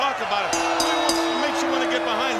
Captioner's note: bell dings